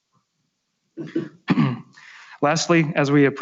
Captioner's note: clears throat